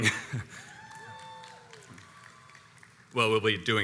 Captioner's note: crowd cheers